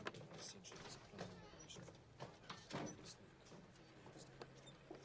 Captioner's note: whisperings